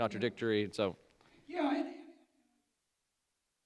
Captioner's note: audio cuts out